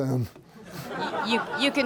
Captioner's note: laughter